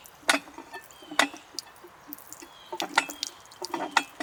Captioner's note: water running